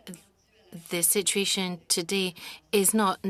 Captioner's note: speaking French